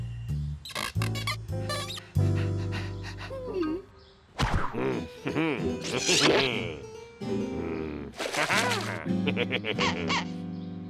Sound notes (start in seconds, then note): 2.2 panting; 4.0 grunting; 4.8 laughs; 9.5 duck squeaks